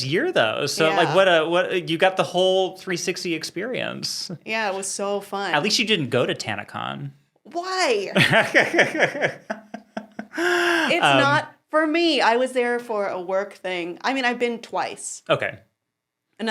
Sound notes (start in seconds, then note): 8.1 laughing